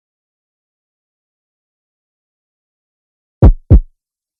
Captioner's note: silence; heartbeat; silence